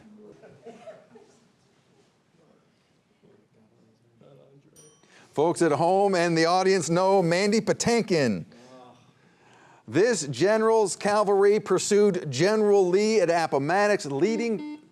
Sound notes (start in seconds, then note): 0.2 audience members chuckling; 3.6 student whispering; 4.8 bell dinging; 14.2 buzzer buzzing